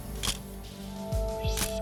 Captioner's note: camera shuttle click